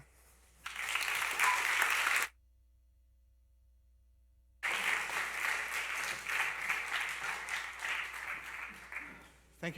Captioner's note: applause